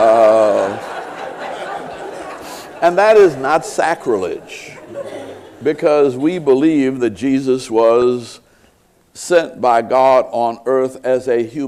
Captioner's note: laughter